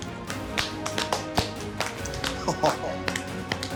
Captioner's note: epic music; group clapping